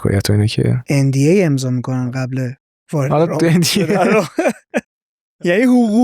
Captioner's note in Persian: خنده